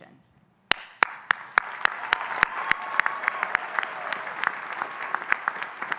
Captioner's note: audience applauding and cheering